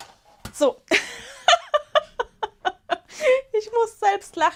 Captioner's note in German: Gelächter